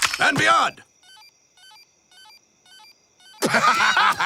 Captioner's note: Buzz beeping; Bunny and Ducky laughing